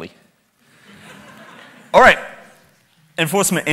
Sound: audience chuckles

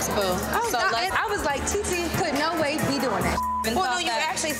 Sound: beep

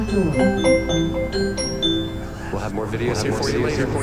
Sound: Ring Doorbell sound

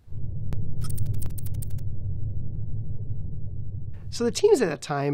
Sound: electronic typing

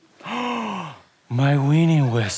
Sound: gasp

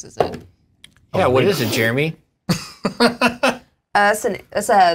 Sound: laughs

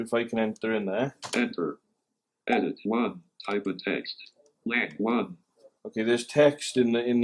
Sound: computerised voice

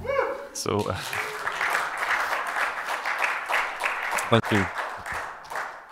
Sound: applause

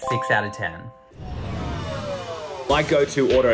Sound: whizzing

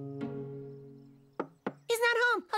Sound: knock

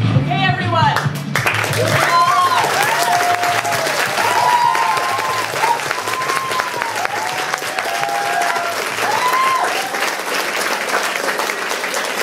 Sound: applause and cheering

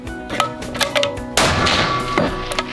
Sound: bam!!!

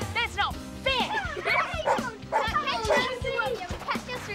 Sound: giggling; barking

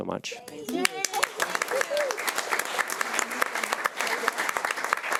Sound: audience applauding

